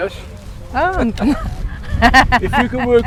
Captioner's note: laughter